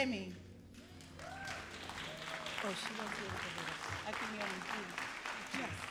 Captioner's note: all applauding and cheering